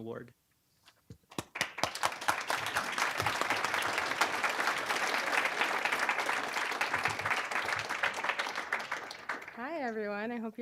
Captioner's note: applause